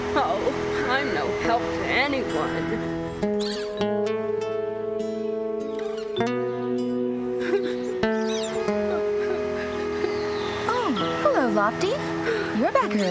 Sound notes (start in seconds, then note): 7.4 crying Softly